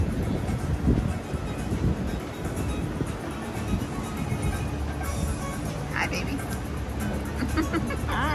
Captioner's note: foreign music; wind whooshing; giggling